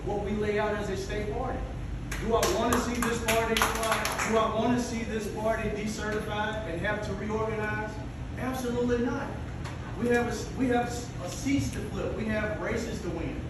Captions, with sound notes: Everybody else has to abide by the rules and follow what we lay out as a state party. (applause) D o I want to see this party decertified and have to reorganize? Absolutely not. We have seats to fill, we have races to win.